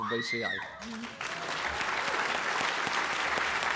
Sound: applause

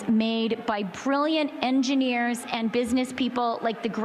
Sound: chanting

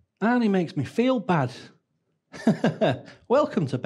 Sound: chuckles

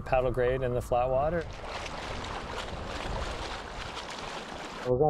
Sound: splashing

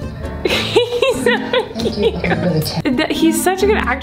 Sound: laughs

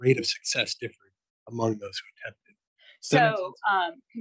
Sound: audio blurs

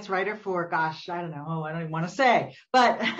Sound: laughs

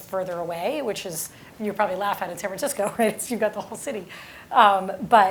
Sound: laugh

